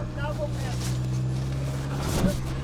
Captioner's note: engine whirring